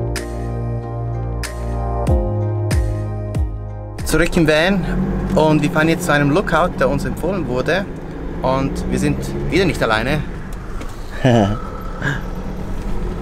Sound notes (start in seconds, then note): 11.2 laughter